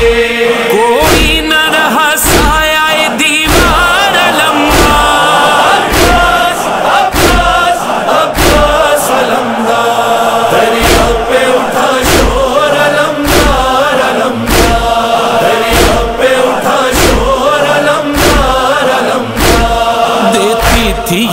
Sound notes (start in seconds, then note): 14.7 chanting